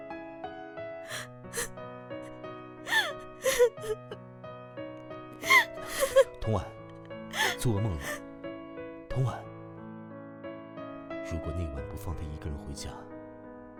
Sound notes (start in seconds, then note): 1.1 sobbing... sobbing; 2.8 sob... whimper; 2.8 whimper... whimper